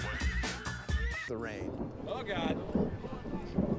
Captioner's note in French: coup de tonnerre